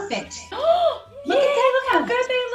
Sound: exclaims

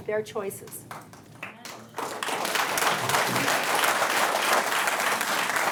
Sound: audience clapping

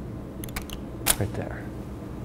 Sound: camera shutter clicking

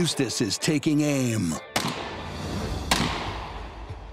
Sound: rifle shots

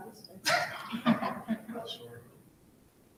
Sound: all laughing softly

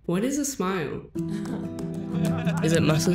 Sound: laughing

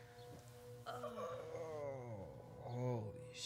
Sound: groaning

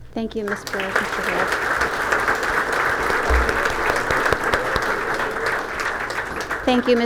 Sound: applause

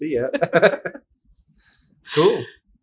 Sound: laughter

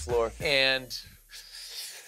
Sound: deep sigh

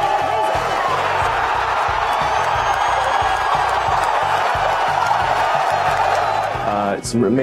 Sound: roaring applause

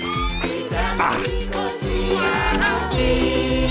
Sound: whirring

